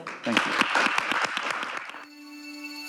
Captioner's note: audience applauding; uptempo instrumental music